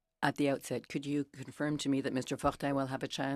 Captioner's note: speaking in French